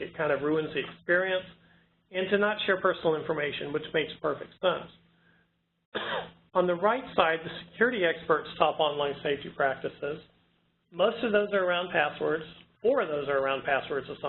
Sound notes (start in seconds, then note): 5.9 coughing